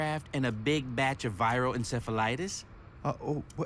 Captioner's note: stammering